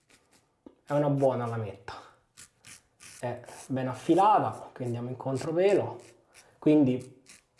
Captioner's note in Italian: sbuffare